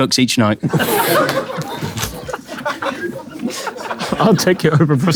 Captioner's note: people in room laughing